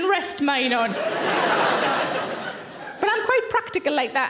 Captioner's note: audience laughing